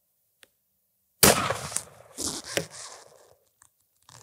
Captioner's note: gun shot